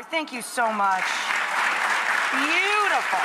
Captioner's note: audience clapping